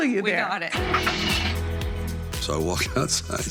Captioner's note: car engine turning